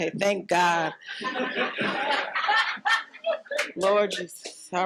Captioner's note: audience laughing